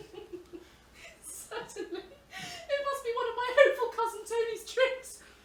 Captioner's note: laughing